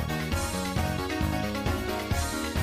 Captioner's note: none